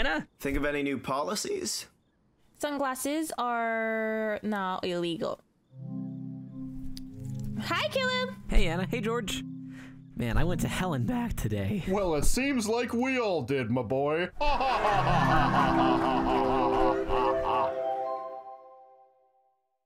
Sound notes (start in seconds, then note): 5.9 footsteps approaching; 14.4 laugh